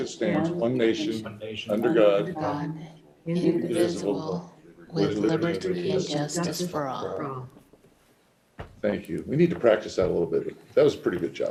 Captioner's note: reciting the pledge of allegiance